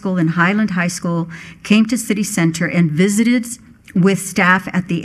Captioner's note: none